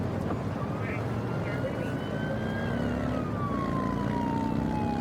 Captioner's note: siren blaring